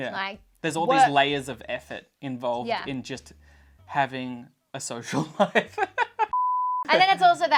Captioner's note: laughs